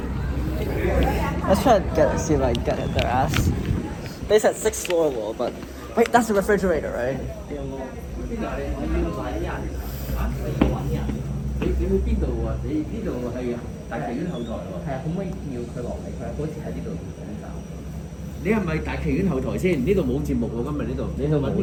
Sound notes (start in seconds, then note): 9.8 Cantonese; 18.2 Cantonese